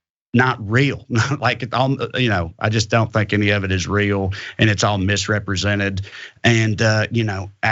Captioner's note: laugh